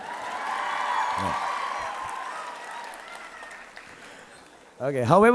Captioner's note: audience applauding